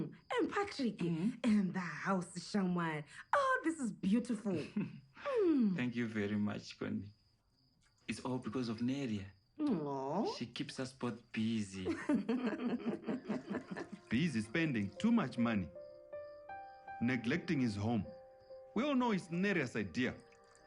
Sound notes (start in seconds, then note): 11.8 laughs